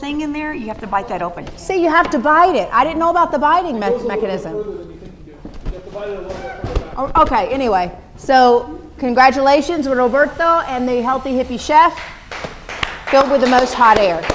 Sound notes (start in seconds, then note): 4.1 voiceover; 14.1 applause